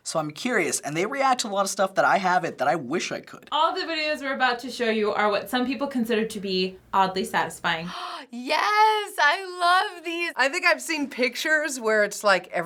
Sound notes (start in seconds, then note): 7.9 gasps